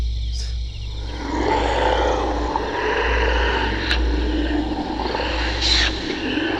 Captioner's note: demonic Growling